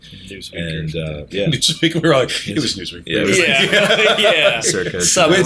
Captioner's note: laughter